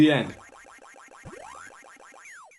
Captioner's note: pac-man noises